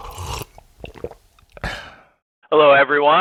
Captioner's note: liquid pouring; loud swallowing; loud sipping